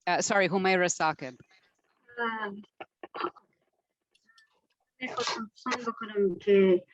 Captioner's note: foreign language 01:22:20; foreign language 01:22:26